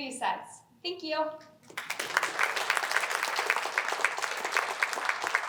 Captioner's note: applause